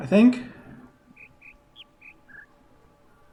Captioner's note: bird chirps ˧ ˧ ˥ ˧ ˩